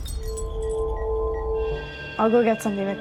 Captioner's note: ominous music; beeping